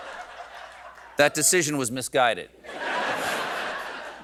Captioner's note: laughter